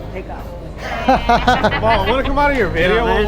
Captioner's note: laughs